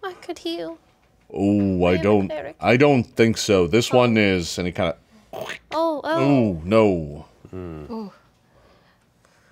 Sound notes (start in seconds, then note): 5.5 squelches